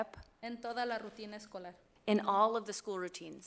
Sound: speaks foreign language

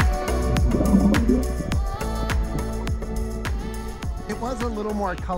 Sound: water bubbles

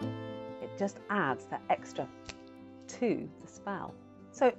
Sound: snaps fingers

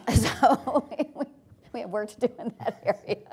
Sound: laughs

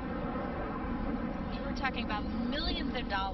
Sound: jet noise

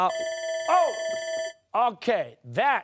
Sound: timer sounding

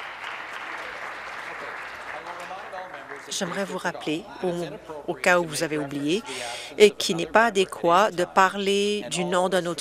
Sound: applause

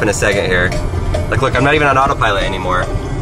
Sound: cowbell chimes

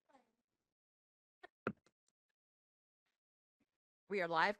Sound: gavel bang

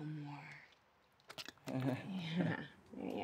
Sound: chuckles

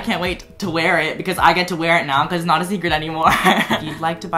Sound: laughs

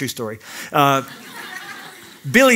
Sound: laughter

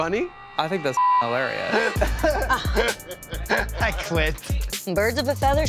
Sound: beep

